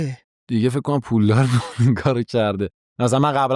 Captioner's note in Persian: خنده